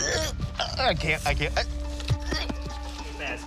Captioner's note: gags